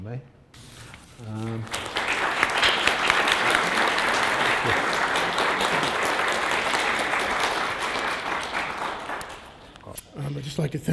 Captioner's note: applause